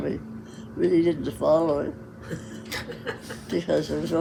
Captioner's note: laughs